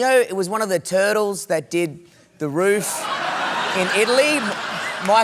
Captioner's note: laughter